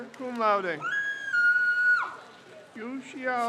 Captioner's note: crowd cheers